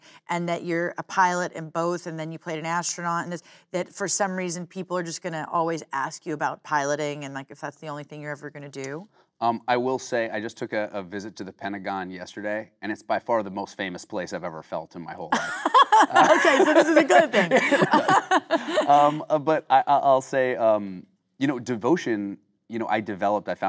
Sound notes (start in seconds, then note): 15.3 Kate laughing; 17.7 both laughing